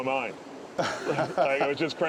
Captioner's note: laughter